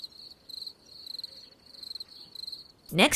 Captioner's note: crickets chirping